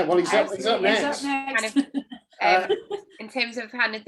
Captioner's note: laughing